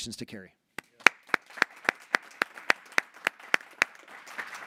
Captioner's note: board applauding